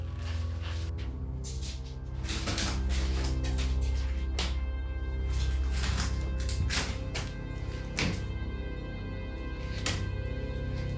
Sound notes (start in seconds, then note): 2.2 Anderson scuffling; 6.3 eerie music